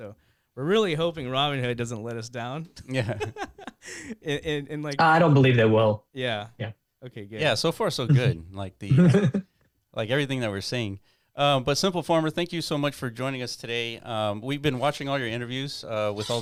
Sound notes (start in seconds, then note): 3.0 laughing